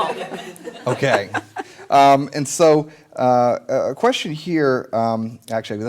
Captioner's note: laughter